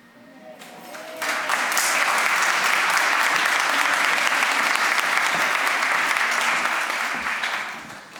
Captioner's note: applause